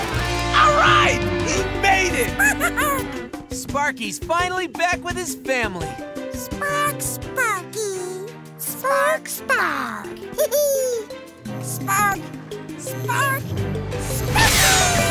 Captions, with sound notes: -All right, you made it! -Spark! Sparky's finally back with his family. Spark Sparky. Spark. Spark. [giggling] Spark. Spark. Sparky!